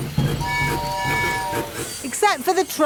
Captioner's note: train tooting